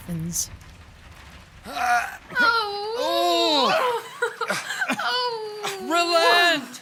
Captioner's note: Sound of fighting and wails from Hermia